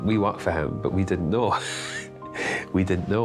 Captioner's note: laughing